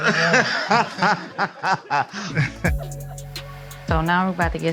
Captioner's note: Chico laughs